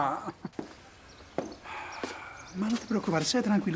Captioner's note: Mayor sighs